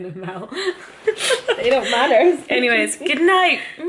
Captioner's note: laughs